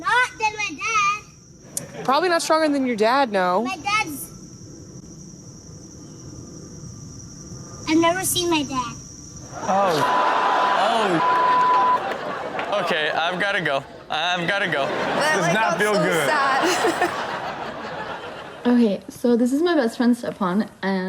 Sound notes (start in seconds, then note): 17.3 all laugh